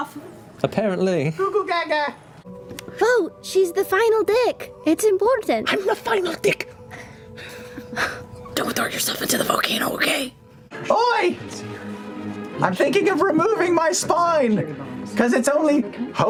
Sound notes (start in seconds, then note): 2.7 emotional, pleading; 8.8 intense whisper